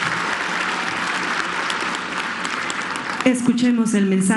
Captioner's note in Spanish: aplausos